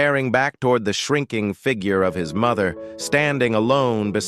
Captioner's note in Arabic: تعليق صوتي